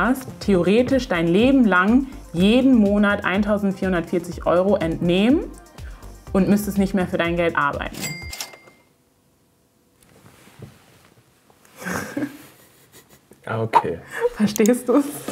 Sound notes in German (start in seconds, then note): 8.0 Kasseklingeln, Musik endet abrupt; 11.8 Lachen